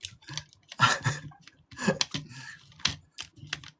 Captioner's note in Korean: 웃음